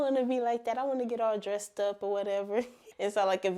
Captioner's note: chuckling